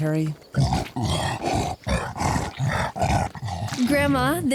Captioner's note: panting